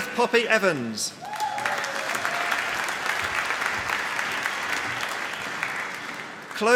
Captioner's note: applause